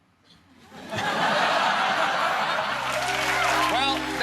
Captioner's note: laughter